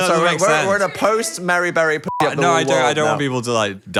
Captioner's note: beep